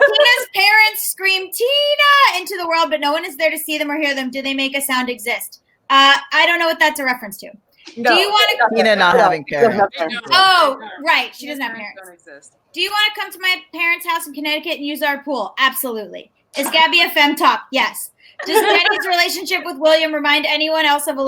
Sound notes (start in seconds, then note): 16.6 chuckling; 18.3 lauging